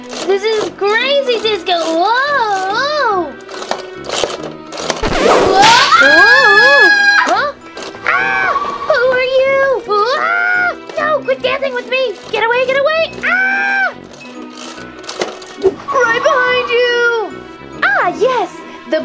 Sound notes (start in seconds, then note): 5.0 whip cracking; 5.4 assistant screaming; 8.0 Gekko screaming; 9.9 Gekko screaming; 13.2 Gekko screaming